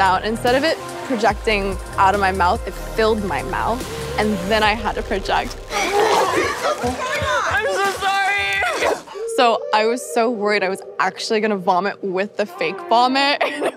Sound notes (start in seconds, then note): 5.6 hurling; 13.4 chuckles